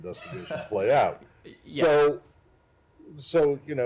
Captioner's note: laughter